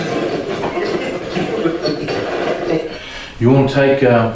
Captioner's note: static